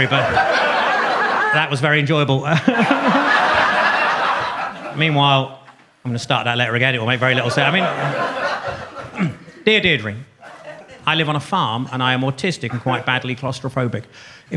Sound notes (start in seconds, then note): 0.0 audience laughs; 2.6 laughs; 7.2 audience laughs